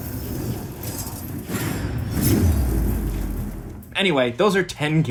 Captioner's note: swords clinking